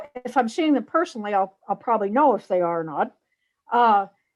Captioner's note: none